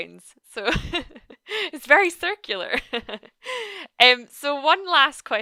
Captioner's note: laughs